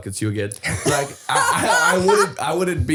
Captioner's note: laughing